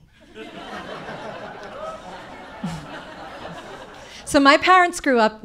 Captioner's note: audience laughing